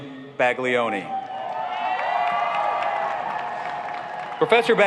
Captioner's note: applauding